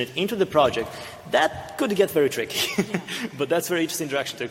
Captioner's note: laughs